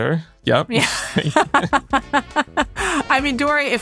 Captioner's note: laughing